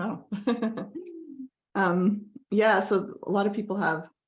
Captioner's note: laughs